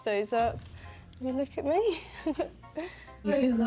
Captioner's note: giggles